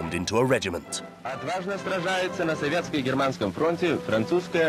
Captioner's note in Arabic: الصوت المنطوق بالروسية